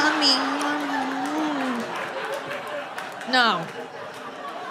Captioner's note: audience laughing